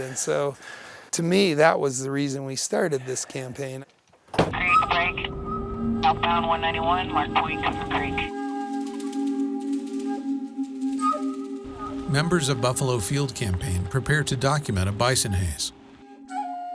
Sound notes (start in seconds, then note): 4.7 walkie talkie chatter; 9.1 native American music